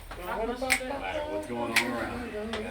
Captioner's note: fingers snap